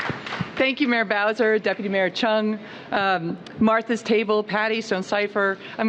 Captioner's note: applause